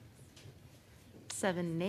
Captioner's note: speaking French